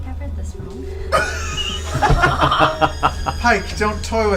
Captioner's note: all laugh